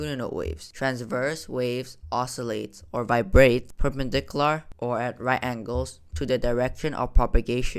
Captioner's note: vibrates